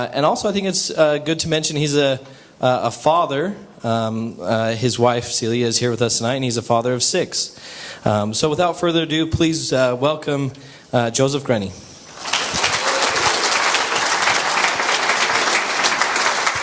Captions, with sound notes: And also, I think it's good to mention he's a father. His wife, Celia, is here with us tonight. And he's a father of six. So without further ado, please welcome Joseph Grenny. [AUDIENCE APPLAUSE]